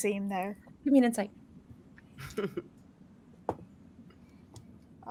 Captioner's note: Neb chuckles